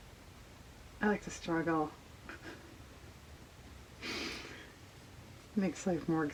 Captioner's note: laughs